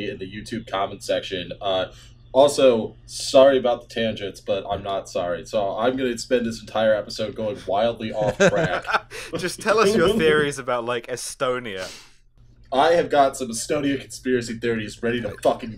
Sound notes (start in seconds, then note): 8.0 laughter